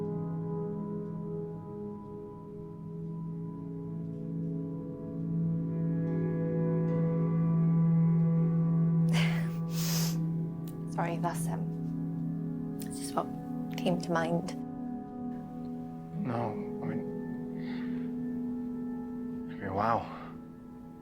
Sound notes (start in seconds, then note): 9.1 giggles nervously